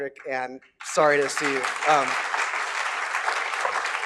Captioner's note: applause